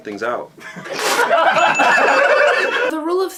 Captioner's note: spitting Water and Laughter